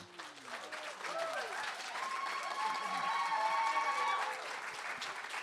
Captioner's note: applause